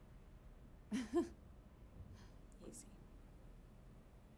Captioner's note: Karen chuckles